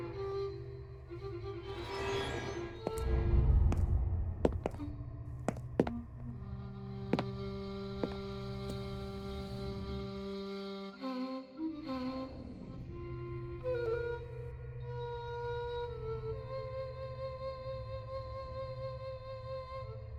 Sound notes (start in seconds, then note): 1.7 door sliding; 4.4 footsteps thudding